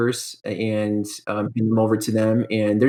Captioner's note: murmurs